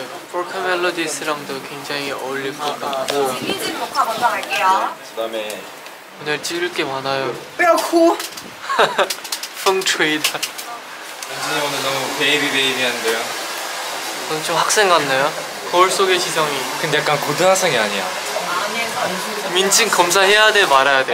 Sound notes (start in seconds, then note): 8.6 laughing